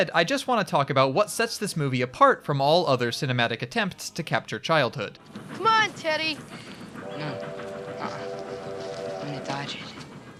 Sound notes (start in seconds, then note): 5.3 sound of train; 7.0 train whistle